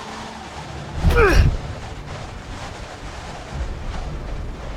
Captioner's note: grunting